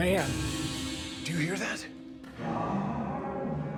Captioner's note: metal rattles